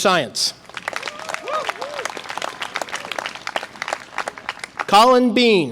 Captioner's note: audience applause and cheer